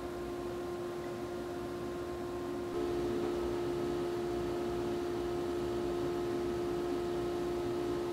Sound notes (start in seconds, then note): 2.7 air fan whirs